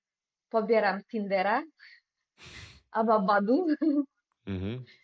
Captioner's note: snort